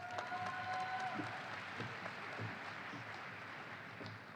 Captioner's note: audience applauding